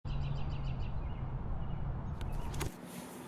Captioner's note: birds chirp